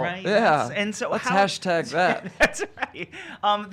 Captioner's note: laughing